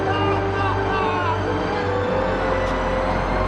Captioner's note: yelling